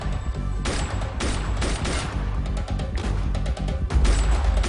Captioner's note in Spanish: Disparos